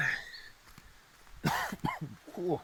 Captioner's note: cough